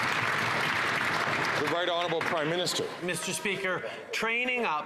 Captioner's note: some Applause